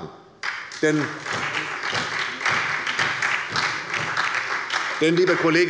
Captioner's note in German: Beifall bei der SPD